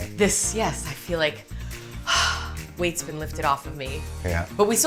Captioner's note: sighs